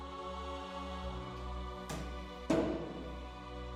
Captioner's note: loud banging